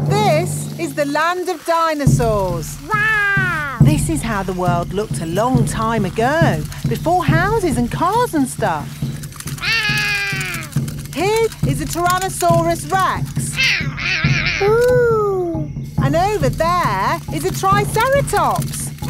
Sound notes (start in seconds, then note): 9.6 roaring; 13.6 roaring